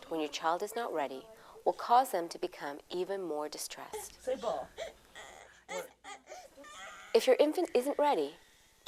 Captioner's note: baby crying